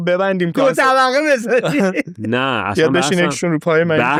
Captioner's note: laughs